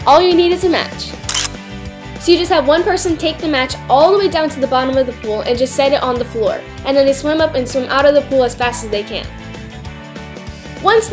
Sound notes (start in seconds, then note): 1.2 camera shutter clicks